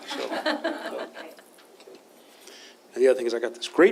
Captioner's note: laughter